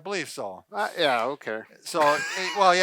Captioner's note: laughs